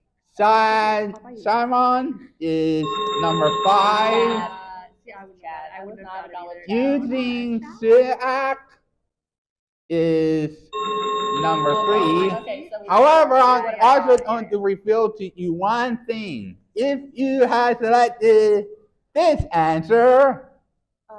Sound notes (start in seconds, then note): 2.7 chiming sound effect; 4.8 chattering; 10.7 chiming sound effect